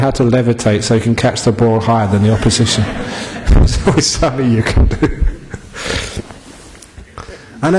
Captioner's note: laughter